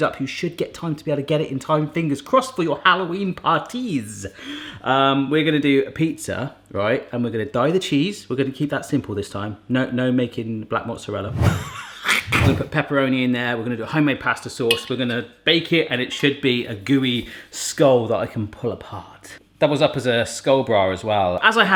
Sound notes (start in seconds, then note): 11.6 laughs